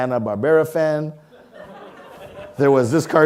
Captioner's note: audience laughing